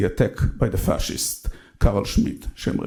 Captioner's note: speaks in foreign language